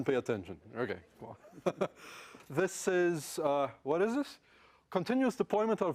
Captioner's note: laugh